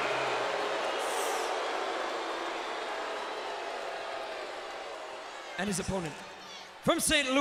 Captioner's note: applause